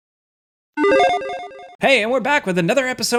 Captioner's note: electronic chiming